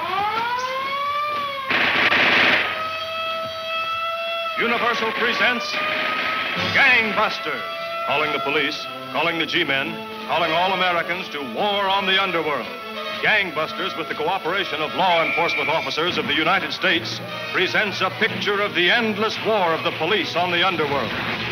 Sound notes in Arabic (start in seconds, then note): 0.2 صراخ الإنذار; 1.6 البنادق تطلق النار بشكل عدواني